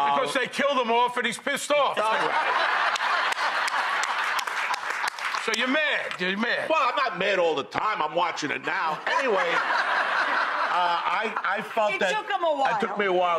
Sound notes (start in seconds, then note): 2.8 applause